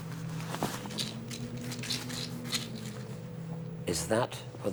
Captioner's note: pills rattling